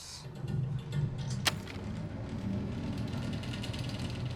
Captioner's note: loud rumbling